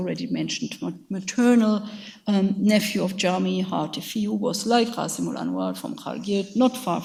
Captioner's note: speaks in a foreign language